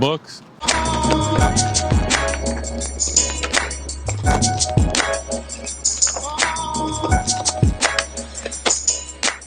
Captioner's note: skater jumps wheels lands